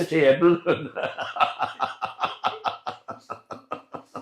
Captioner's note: laughter